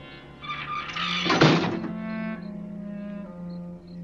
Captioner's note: squeaking